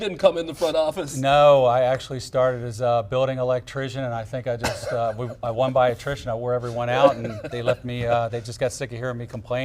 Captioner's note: laughter